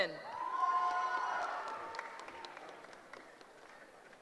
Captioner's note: cheering